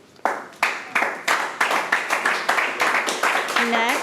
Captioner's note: audience applauding